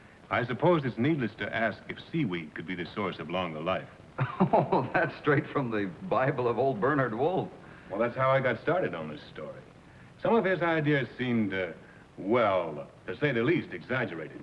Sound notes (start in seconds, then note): 4.2 laughter